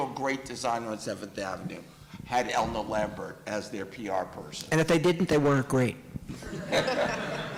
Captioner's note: laughter